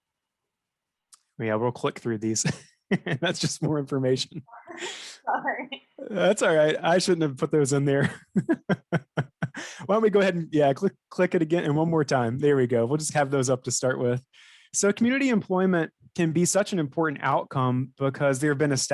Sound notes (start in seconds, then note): 2.9 laughs; 5.0 laughing